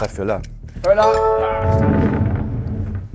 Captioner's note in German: Klingeln